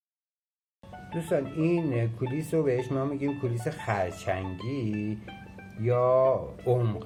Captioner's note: in Persian